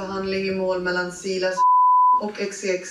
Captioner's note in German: Piepton